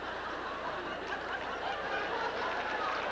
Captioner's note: growing applause